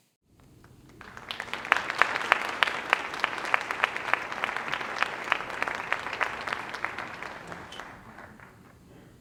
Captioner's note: applause